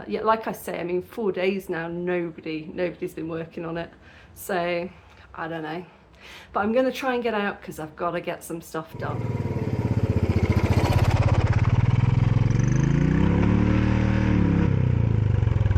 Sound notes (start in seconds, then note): 8.9 bike engine; 13.1 revving